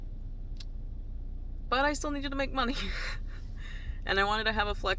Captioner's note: laughs